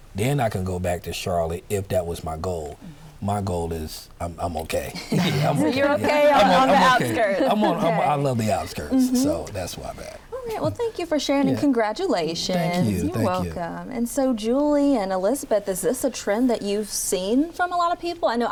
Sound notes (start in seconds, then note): 4.9 all laughing